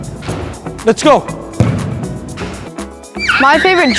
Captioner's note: ball bouncing